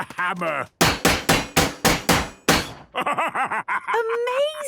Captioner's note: metallic bashing